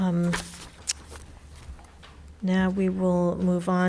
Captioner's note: paper rustling